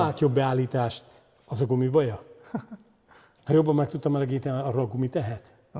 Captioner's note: laughter